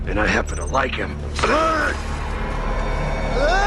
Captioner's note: Възкликва